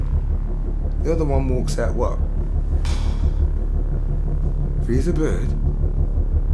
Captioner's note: puffs